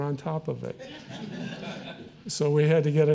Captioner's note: audience laughing